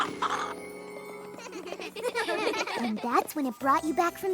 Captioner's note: laughter